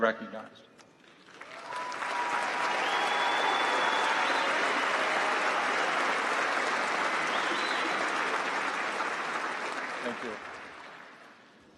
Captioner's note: applause